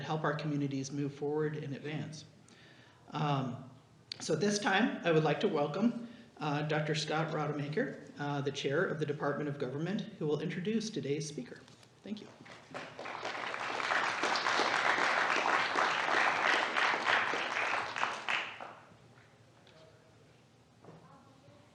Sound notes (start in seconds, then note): 12.3 applause